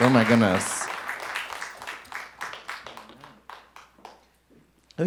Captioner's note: audience applauding